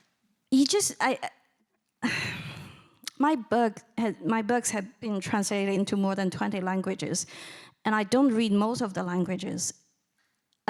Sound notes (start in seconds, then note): none